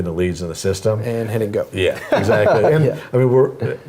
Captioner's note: laugh